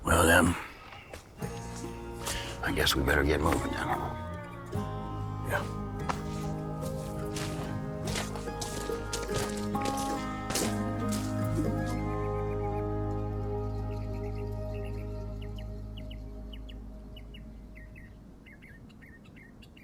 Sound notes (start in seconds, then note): 8.2 light music; 12.3 birds chirping